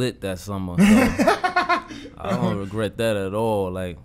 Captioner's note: Quentin laughing